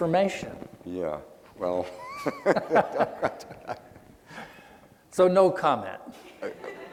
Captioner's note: laughing